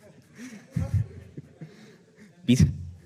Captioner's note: audience laughs